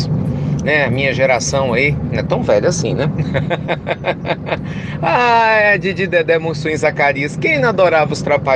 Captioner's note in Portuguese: Risos